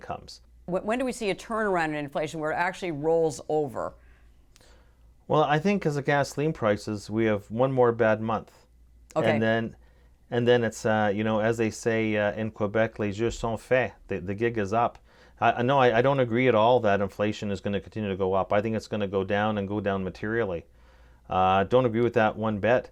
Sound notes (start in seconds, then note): 12.2 french Speech 0:10:27